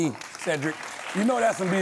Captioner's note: audience applauds